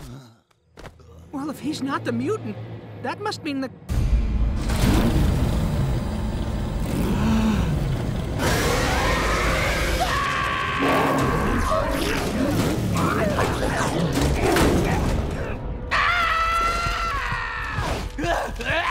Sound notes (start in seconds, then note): 6.7 roaring; 7.0 gasping; 8.4 screaming; 15.9 screaming; 17.6 groaning